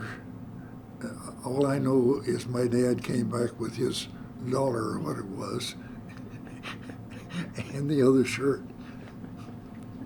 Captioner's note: laughs